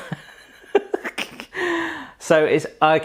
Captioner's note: laughing